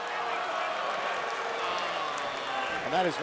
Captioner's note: crowd cheering